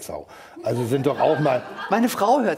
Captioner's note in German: Lachen im Publikum